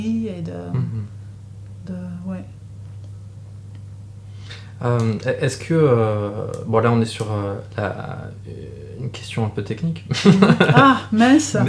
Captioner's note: laughs